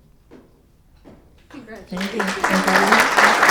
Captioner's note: attendees applauding